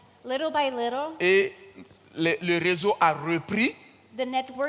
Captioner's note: continues in French